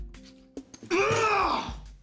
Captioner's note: shouts